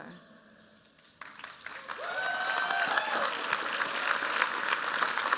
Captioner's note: cheers, applause